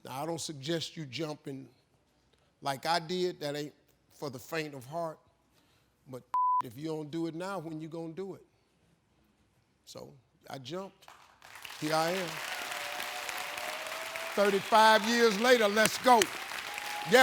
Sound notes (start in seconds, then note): 6.3 beep; 11.1 audience applauding